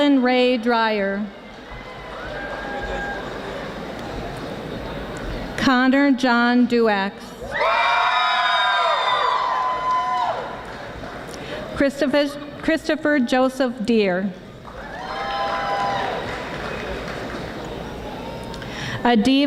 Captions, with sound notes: Madeline Rae Dryer. Connor John Duax. (audience screaming) Christopher Joseph Duehr. (audience applauding)